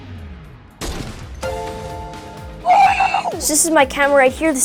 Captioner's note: gun shoots; game dings